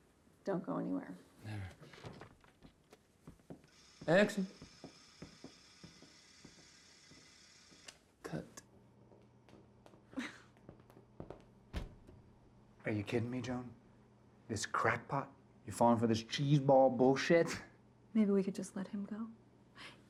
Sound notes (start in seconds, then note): 3.7 camera whirring